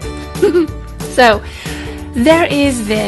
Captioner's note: laugh